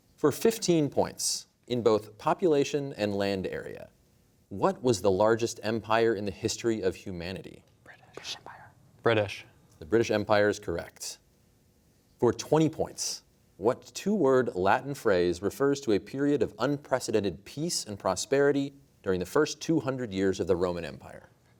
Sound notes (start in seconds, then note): 7.9 whispering